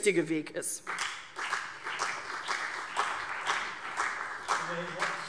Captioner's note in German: Beifall CDU und BÜNDNIS 90/DIE GRÜNEN